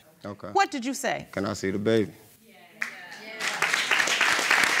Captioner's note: audience cheering